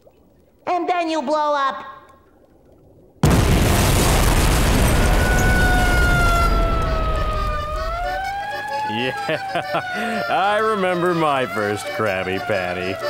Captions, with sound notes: And then you blow up! [siren blaring] Yeah-heh, I remember my first Krabby Patty.